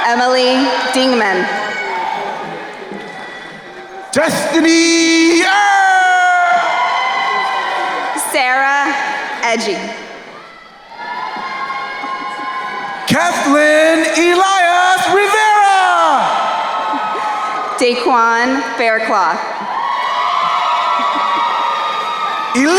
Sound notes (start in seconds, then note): 6.8 crowd cheering; 10.8 crowd cheering; 16.4 crowd cheering; 20.0 crowd cheering